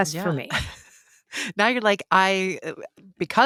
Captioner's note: laughs